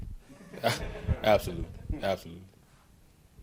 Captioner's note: everyone chuckles